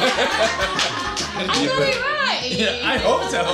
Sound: laughter

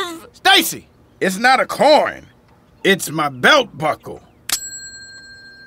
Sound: pings

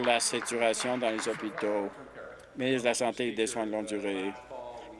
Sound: applause

